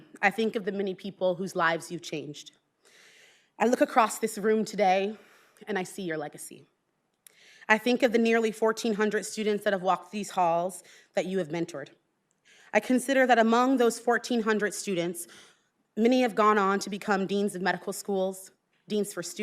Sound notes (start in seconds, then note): none